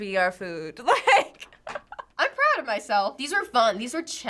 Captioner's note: laughs